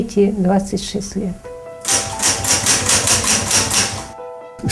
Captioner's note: typewriting